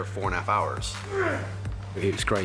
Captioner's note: grunts